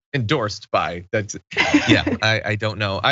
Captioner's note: laugh